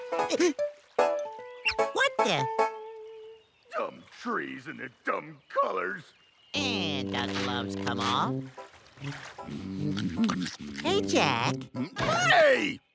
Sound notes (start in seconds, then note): 0.1 gasps; 9.6 humming